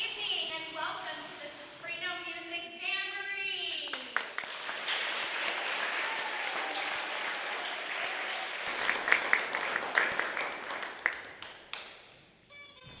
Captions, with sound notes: - Good evening, and welcome to the Suspreno Music Jamboree. (applause)